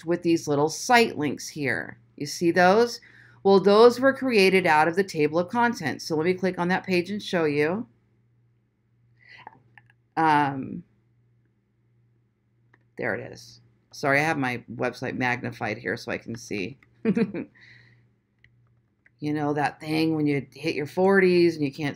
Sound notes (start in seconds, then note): 17.0 chuckles